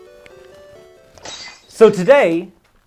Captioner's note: stock broken glass sound